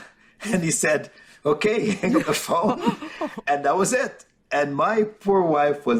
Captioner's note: chuckling